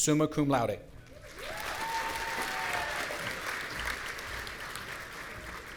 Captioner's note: audience cheering